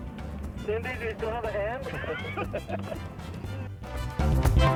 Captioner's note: over the radio